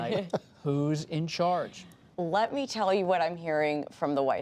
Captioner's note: laughter